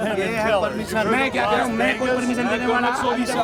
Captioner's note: non-english speech